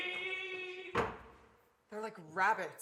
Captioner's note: door slams